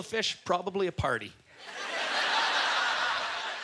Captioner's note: audience laughter